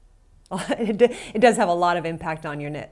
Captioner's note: laughs